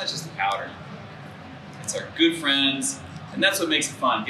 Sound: none

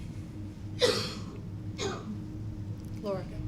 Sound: coughing

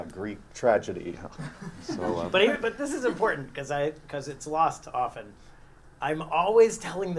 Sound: laugh

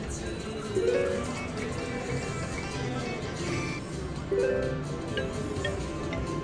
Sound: machine beeps

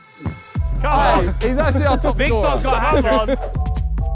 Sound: upbeat music; players clamouring

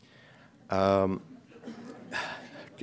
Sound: laughter

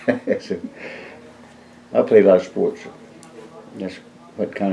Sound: laughs

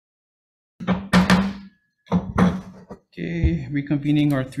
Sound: gavel pounding

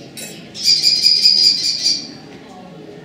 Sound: kestrel Call

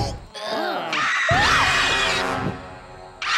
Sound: screaming

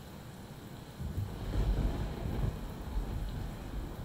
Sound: rain and thunder

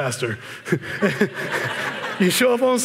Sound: laughter

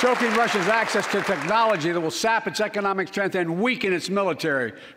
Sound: applause

